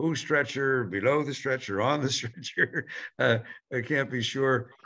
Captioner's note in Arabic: يضحك